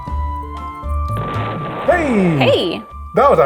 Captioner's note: pleasant music; explosion blasting